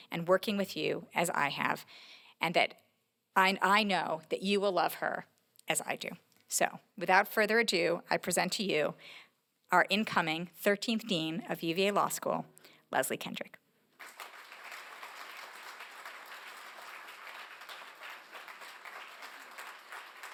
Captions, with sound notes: and working with you as I have, and that I know that you will love her as I do. So without further ado, I present to you our incoming 13th Dean of UVA Law School, Leslie Kendrick. [APPLAUSE]